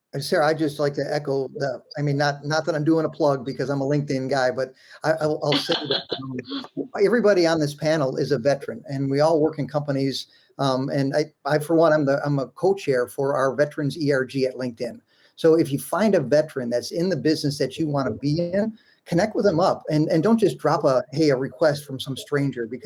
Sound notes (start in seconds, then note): 4.9 laughs